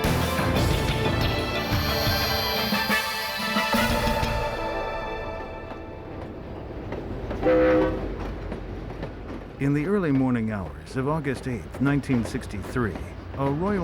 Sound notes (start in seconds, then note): 7.3 train horn